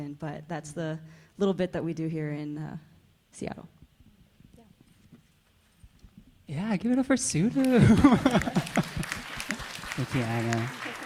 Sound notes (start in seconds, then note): 7.6 audience applauding; 7.6 laughs